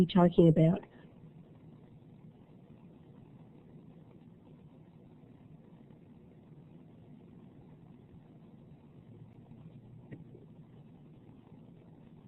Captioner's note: silence